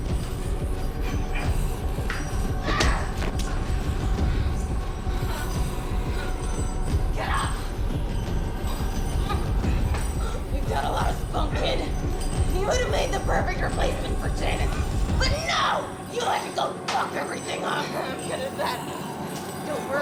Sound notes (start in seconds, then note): 2.6 Kathleen groans